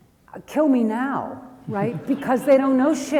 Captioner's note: audience laughs